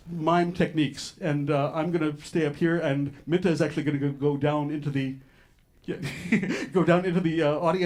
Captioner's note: laughs